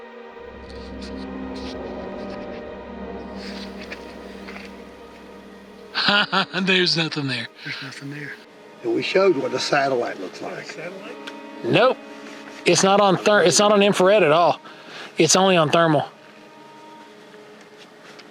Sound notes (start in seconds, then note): 0.3 suspenseful music continues; 5.9 laughs